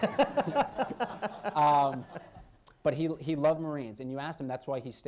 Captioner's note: laughter